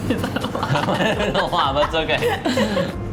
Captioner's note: both laugh